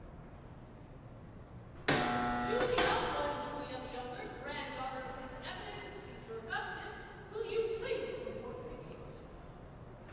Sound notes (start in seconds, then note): 1.9 buzzer